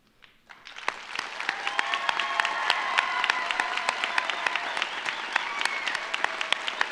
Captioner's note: audience applauds; audience cheers